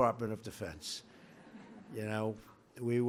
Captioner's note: laughter